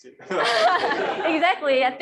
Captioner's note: laughter